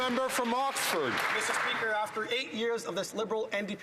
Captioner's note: some Applause